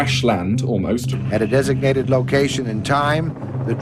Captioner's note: soundbite of archived recording